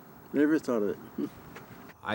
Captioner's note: laughs